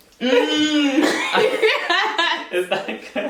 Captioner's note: laughs